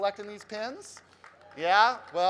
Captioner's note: crowd clapping